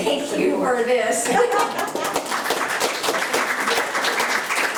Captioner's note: applauding